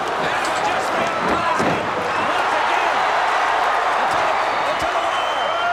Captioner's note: crowd's roar drowns out commentary